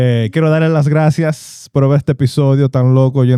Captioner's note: speaking In Foreign Language